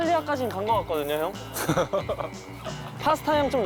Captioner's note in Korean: 가소로운 웃음